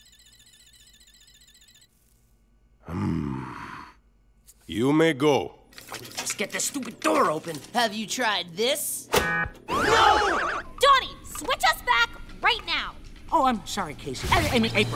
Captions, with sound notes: Hmm. You may go. If I could just get the stupid door open. Have you tried this? [beeping] No! Donnie, switch us back right now. Oh, I'm sorry, Casey. I mean- I mean, April.